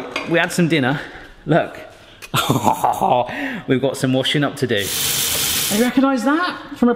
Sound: laughing

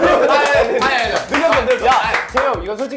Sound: clapping like a seal out of happiness

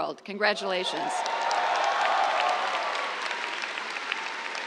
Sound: cheers, applause

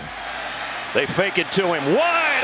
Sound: voiceover

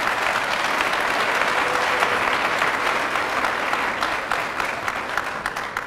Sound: applause

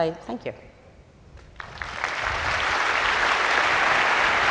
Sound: audience applause

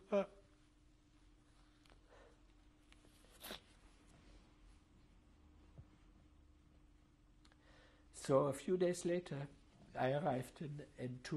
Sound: pauses for 7 seconds

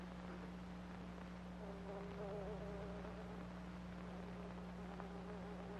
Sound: fly faintly buzzing

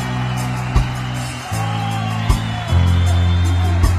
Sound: crowd cheering

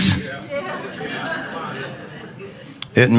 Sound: congregation chattering

